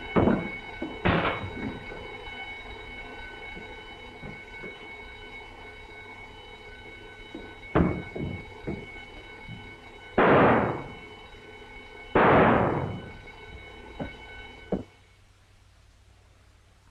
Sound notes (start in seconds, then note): 9.8 gun firing